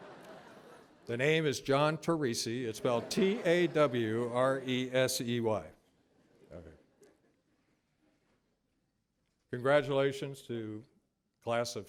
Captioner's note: laughter